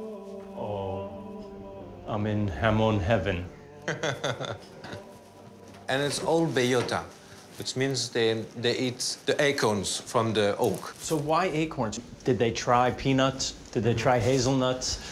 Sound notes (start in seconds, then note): 3.8 laughs